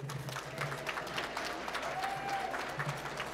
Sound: applause

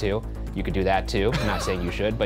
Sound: laughing

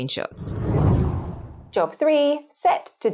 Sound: wind blows

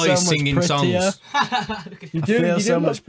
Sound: laughs

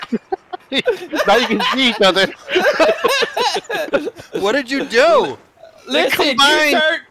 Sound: hysterical laughter; group laughter

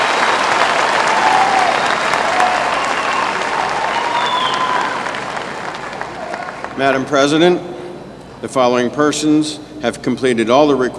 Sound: applause

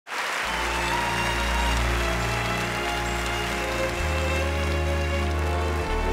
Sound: audience applauds; dramatic music

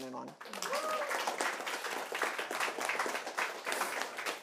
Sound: audience clapping

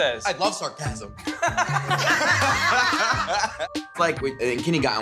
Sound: all laughing

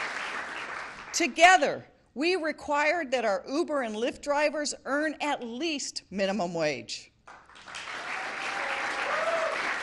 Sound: applause

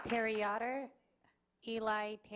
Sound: clapping

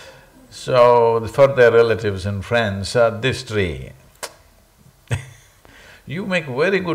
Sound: laughs

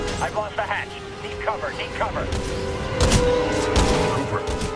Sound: radio

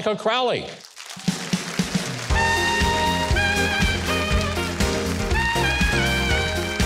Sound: crowd applauds; upbeat jazz music

